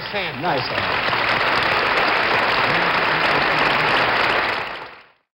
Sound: audience applauds

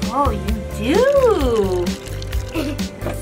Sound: tea splashing; giggles

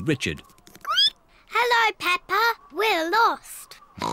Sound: squeaks; oinks

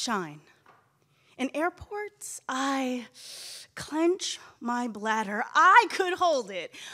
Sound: inhales deeply

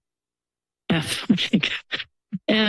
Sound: laughs

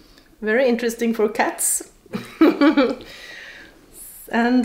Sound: laughs

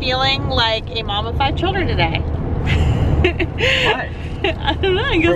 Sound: laughs

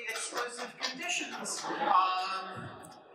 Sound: laughter

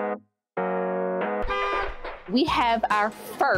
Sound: upbeat Music; horn Honks

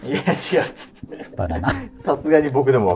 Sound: laughing

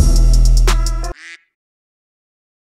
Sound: quack

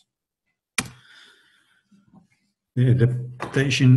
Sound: clicks

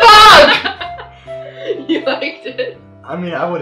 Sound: laughing

